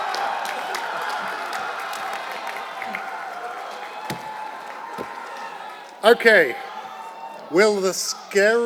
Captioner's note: applause